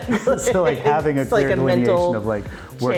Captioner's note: laughing